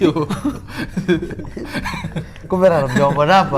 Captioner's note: chuckling